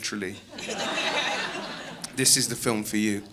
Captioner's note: audience laughing